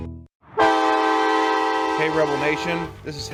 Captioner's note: horn blaring